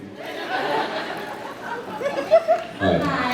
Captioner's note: laughs